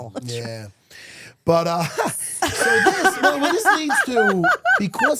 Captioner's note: laughs